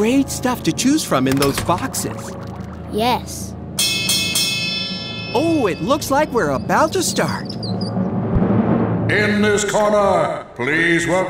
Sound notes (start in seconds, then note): 3.8 bell rings